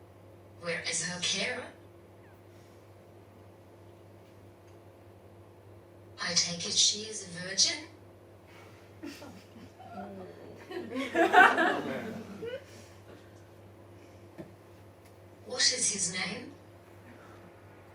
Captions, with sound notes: Where is her carer? I take it she is a virgin? (Audience laughing) What is his name?